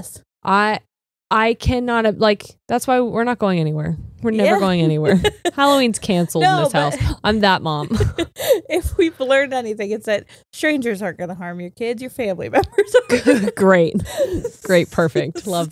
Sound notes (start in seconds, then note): 5.0 laughs; 12.6 laughs